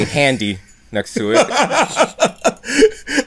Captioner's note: laughter